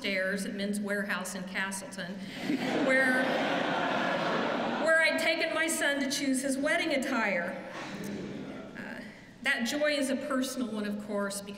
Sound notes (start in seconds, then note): 5.9 laughter